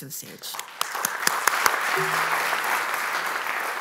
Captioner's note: applause